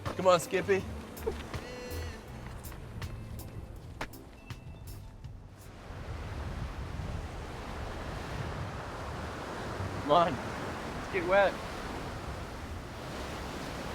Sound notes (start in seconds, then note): 2.7 waves crashing